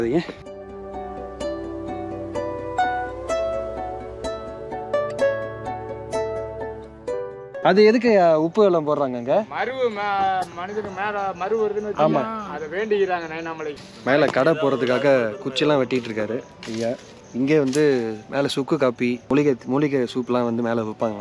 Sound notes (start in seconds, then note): 11.3 speaker noise